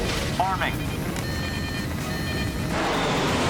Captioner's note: alarm